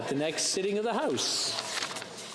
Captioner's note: speaking French